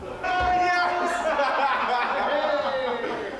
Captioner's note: cheers